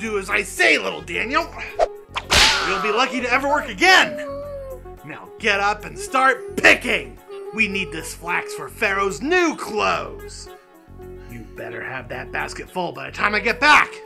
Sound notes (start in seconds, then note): 2.1 whip cracking